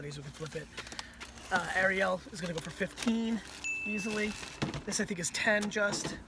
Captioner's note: bell dings